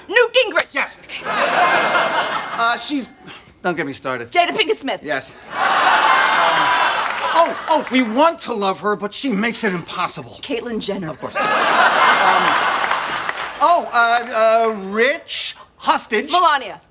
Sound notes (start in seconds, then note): 1.2 audience laughing; 1.2 bell rings; 5.5 audience groaning; 11.3 audience laughing; 11.4 bell rings